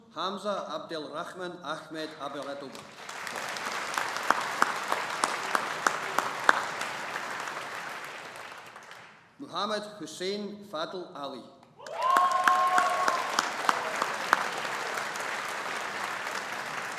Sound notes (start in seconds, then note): 2.2 audience applauding; 11.8 audience applauding